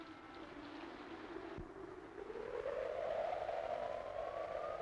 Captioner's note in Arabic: هبوب الريح